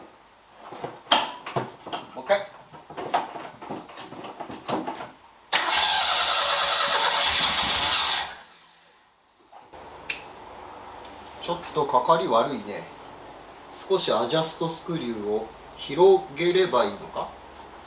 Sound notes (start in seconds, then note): 5.5 engine whirring